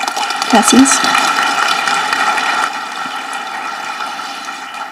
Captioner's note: audience applauding